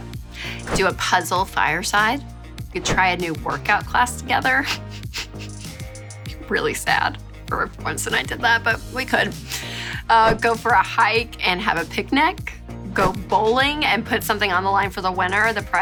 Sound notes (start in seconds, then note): 4.5 laughing